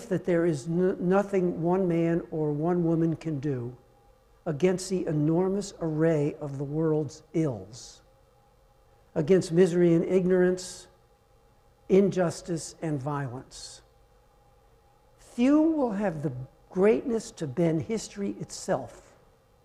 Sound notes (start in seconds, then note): none